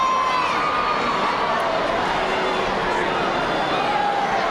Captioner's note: crowd heckling